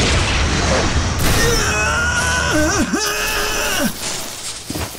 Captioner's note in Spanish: grita